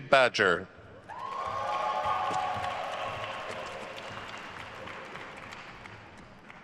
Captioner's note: attendees cheering and applauding